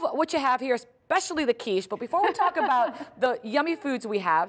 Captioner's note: laughter